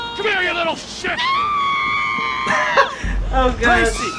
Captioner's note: screaming